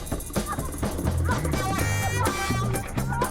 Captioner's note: woman moaning